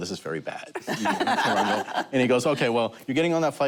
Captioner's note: laughter